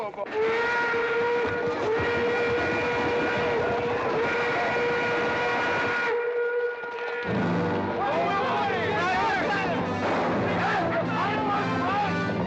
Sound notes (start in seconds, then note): 0.4 train whistle blaring; 2.2 horses bustling; 2.2 train whistle blaring; 7.2 dramatic music; 7.9 men yelling